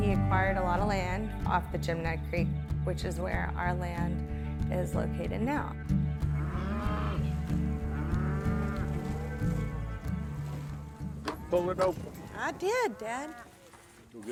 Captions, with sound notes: He acquired a lot of land off the Jim Ned Creek, which is where our land is located now. (gentle western music continues) (cows lowing) - Pull it open. - I did, Dad.